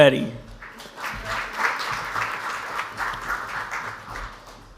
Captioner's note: audience applauds